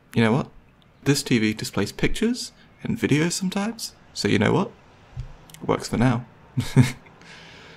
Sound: laughs

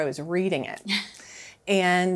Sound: chuckles

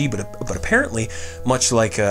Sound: breathes

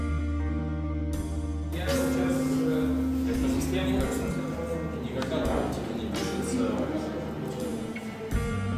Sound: off-screen chatter

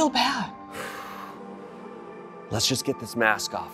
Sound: Ramses exhaling

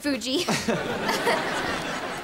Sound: chuckles

